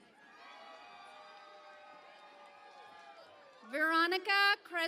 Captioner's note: cheering and Applause